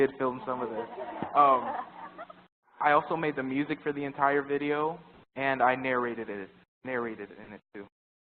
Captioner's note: laugh